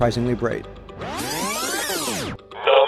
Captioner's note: electronic buzzing